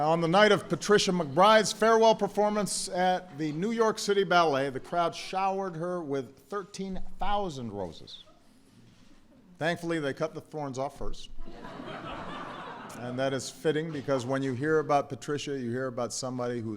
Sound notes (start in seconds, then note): 11.4 laughter